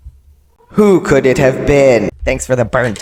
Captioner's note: echoing